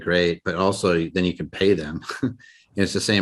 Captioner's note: laughs